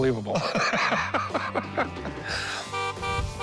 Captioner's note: laughs; car horn honking